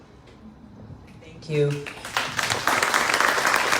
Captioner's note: crowd clapps